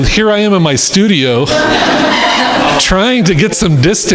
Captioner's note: crowd laughing